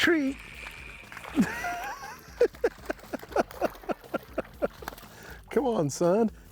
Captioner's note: laughing